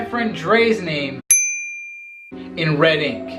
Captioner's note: bell chimes